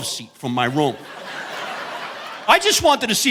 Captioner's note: audience laughing